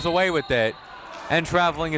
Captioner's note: whistle tweeting